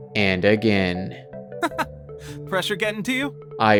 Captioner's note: laughs